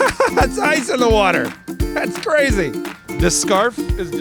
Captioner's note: laughing